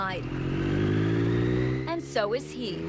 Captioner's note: motorcycle rumbles